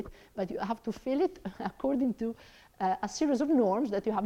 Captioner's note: laughs